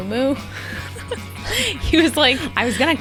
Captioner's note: laughs